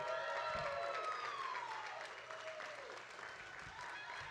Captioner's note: audience cheering